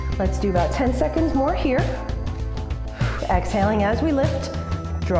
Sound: exhales

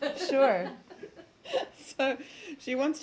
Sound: laughter

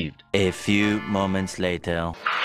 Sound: Spongebob narrator voice

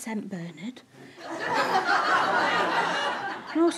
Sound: audience laughter

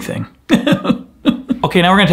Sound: pretending to sob

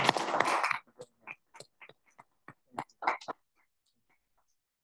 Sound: audience clapping

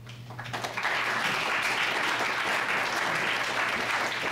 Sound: audience applause

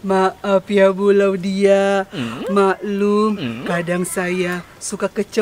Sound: laughs

